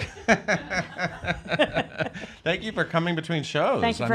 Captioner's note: laughs